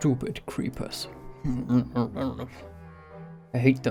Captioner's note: angry mumbling